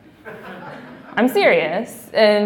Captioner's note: laughing